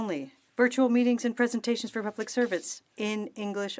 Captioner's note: speaking French